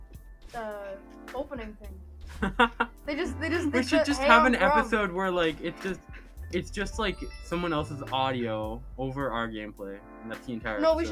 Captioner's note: laughing